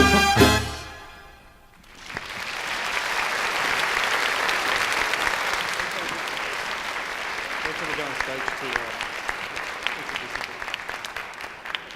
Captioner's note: applause